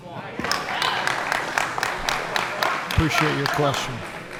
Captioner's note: applause